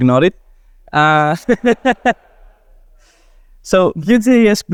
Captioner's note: laughter